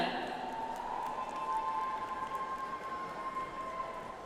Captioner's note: audience applauds